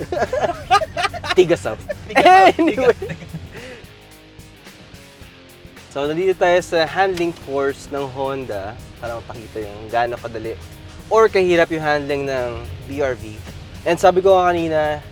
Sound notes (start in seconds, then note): 0.0 laughing